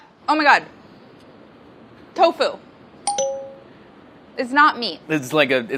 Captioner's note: dinging